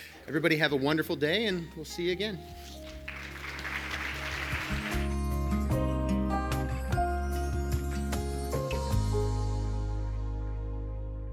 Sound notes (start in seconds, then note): 2.8 audience applauds; 5.9 gentle music